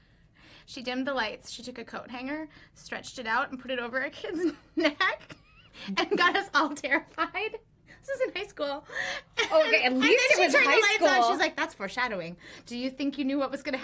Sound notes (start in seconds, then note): 7.1 laughs